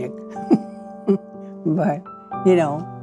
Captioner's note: laughs